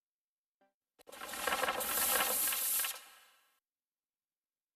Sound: pages curling

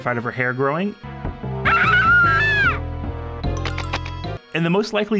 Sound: screams

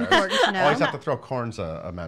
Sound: laughing

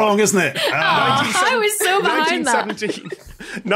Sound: giggles

